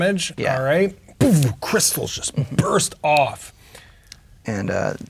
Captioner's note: imitates explosions